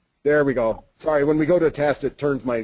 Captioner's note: voiceover